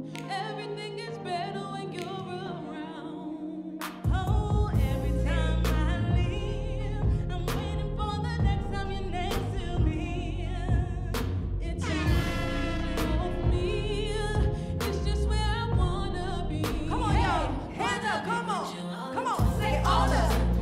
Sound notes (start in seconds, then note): 11.9 air horn Blaring